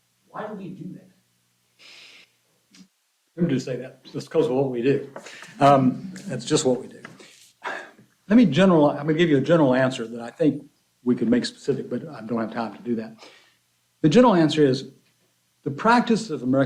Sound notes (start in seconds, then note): 5.3 laughter